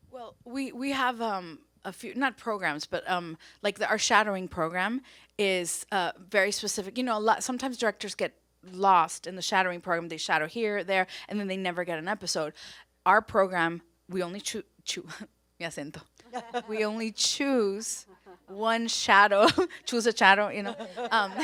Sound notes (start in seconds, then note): 15.0 speaks foreign language; 20.6 everyone laughs